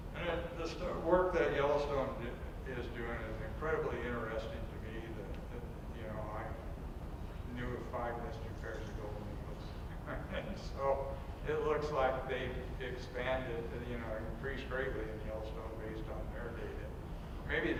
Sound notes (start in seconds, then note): 9.8 chuckles